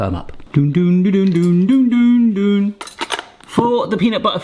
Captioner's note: humming "Harry Potter" theme tune